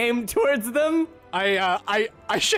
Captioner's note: stuttering slightly